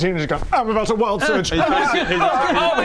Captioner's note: errrghaaah!